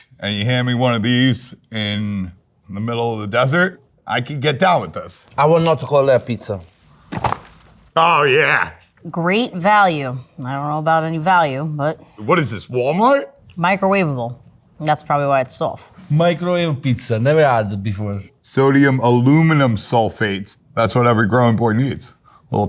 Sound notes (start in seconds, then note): 7.1 box clanging